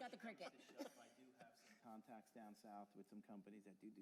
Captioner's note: laughter